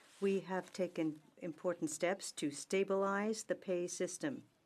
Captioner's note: speaking French